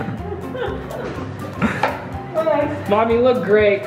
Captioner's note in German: lacht